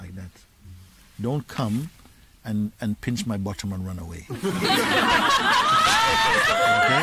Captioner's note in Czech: smích